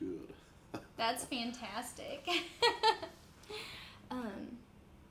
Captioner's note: laughs